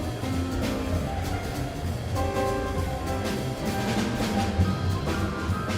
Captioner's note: upbeat lively music continues; audience members chattering indistinctly